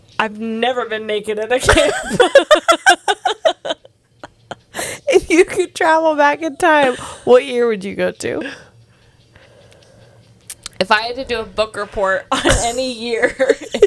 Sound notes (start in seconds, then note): 1.6 panel laughing